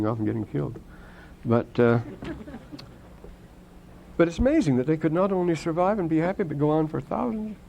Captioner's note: laughter